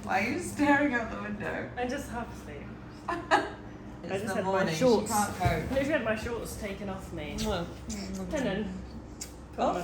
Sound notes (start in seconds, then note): 3.1 laughing